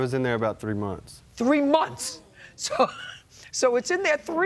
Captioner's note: laughs